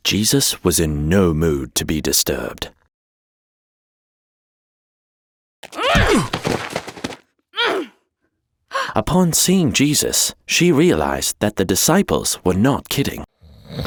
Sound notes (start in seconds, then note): 5.6 body hits floor; 5.8 woman grunts